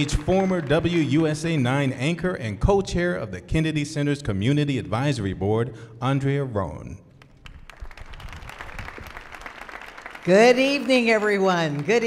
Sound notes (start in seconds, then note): 7.2 audience applauding